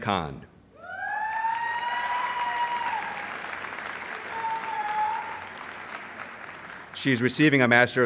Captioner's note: applause